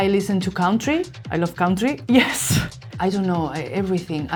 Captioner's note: laughs